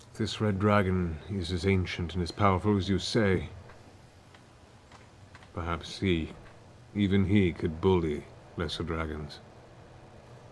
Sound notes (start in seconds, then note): none